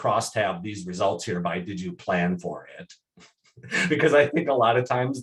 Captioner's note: chuckles